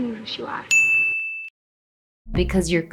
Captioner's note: sharp ding